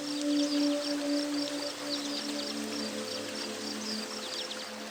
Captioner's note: water flowing, birds singing